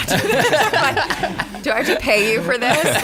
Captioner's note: laughter